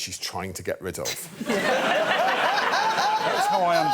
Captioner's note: laughter